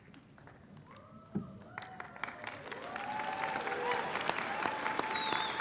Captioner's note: applause